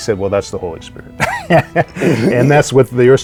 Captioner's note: chuckling